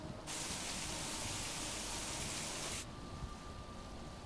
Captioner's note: rain pelting